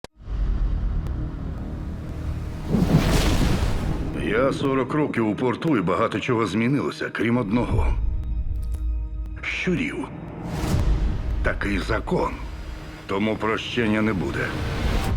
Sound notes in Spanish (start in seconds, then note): 0.0 música inquietante; 0.0 trueno